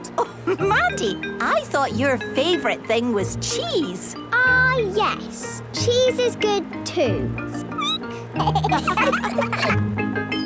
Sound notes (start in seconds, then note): 7.6 squeaking; 8.4 laughter